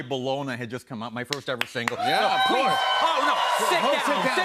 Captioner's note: cheers and applause